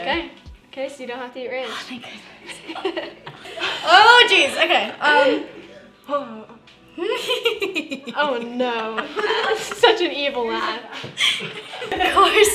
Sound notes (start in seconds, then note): 2.4 laughter; 7.1 maniacal laughter